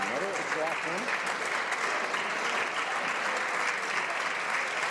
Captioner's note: some Applause